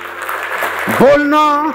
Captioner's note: round of applauses